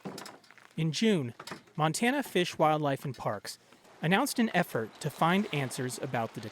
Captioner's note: voice-over